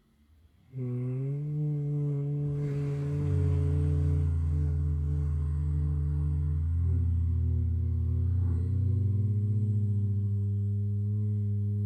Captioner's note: humming & Breathing